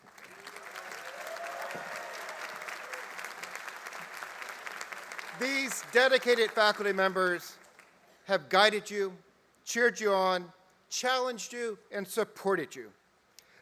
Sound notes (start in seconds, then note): 6.6 applause